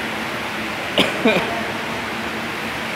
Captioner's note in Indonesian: ter batuk-batuk